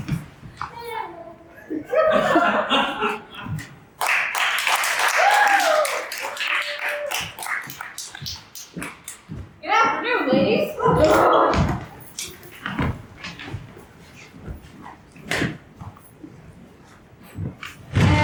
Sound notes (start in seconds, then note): 1.6 laughter; 4.0 applause; 11.3 gasping